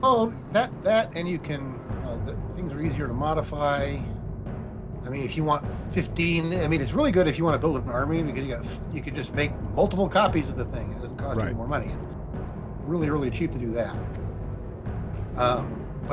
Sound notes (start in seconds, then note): none